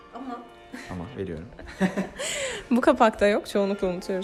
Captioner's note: laughter